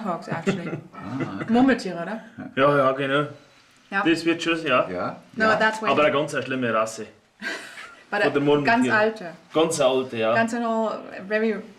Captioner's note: both speak in German